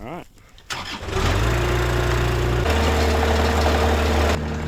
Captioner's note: engine starts